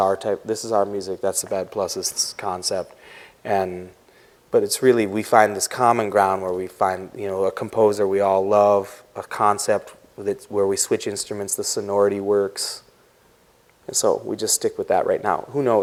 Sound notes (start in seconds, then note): none